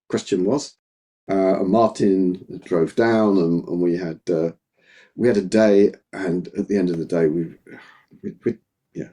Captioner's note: sigh